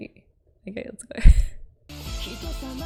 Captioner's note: laughs